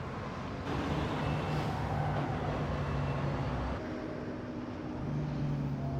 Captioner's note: vehicles whirring in distance